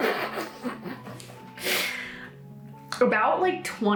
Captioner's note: laughs